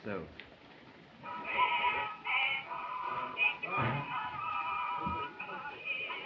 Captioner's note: distorted recording plays